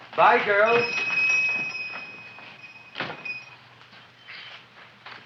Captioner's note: shop bell dings